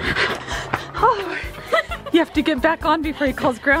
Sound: fast panting; laughing

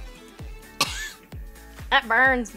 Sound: coughs

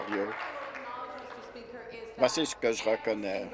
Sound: applause

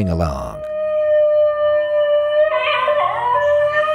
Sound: dog whining

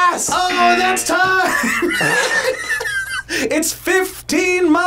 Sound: laughs

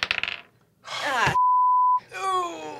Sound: die clatters; beep; sighs; groans

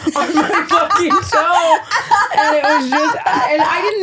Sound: laughing

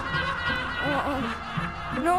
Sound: laughing

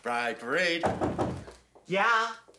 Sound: knocking on door

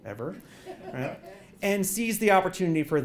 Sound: laugh

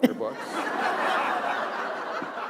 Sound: laughter

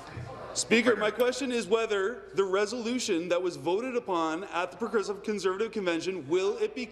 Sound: conversation din

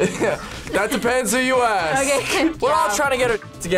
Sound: laughs

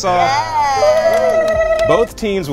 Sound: cheering / clapping

